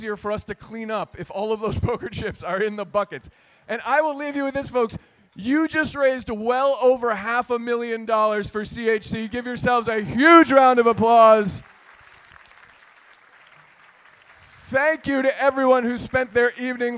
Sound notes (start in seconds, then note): 13.0 cheers and applause